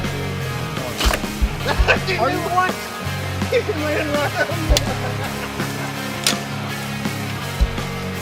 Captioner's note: laughter